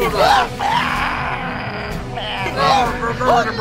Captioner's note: alien growling